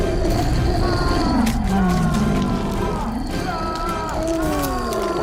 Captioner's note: zombie growling; man screaming